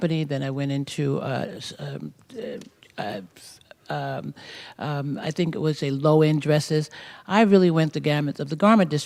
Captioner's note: stammers